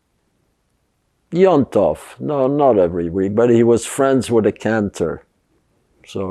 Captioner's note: yiddish